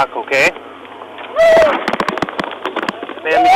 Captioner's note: continues to cry out